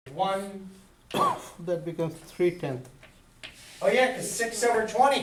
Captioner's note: voiceover